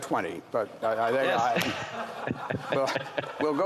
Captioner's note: laughter